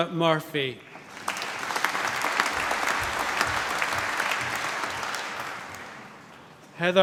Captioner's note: applause